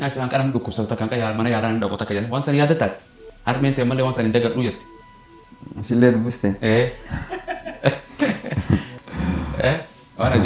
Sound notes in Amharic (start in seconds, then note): 7.0 ሳቅ